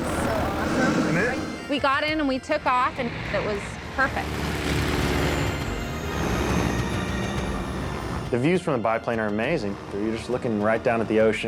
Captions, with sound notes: - This is so awesome. - Isn't it? - We got in and we took off and it was perfect. (airplane engine roaring) (bright music) - The views from the biplane are amazing. You're just looking right down at the ocean,